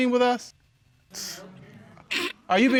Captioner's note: scoffs; chuckles